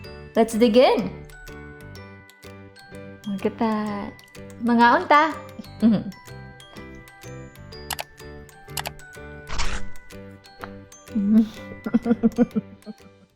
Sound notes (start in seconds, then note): 7.9 mouse clicks; 11.2 chuckles